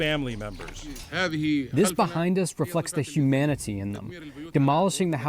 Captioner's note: through translator